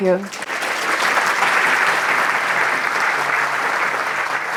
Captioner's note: applause